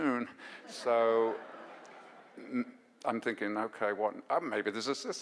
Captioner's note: audience laughs